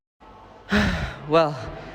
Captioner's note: sigh